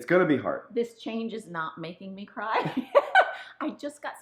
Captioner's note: woman laughing